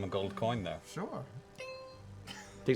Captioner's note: ding